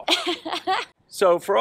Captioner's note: laughs